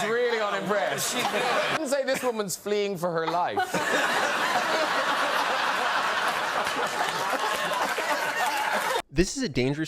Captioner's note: audience laughs